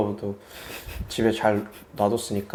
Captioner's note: failed to hold back laughter